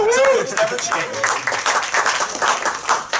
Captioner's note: applause